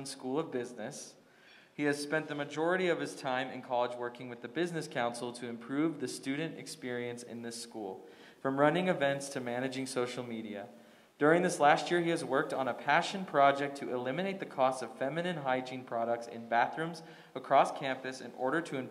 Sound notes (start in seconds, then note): none